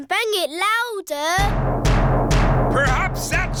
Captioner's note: banging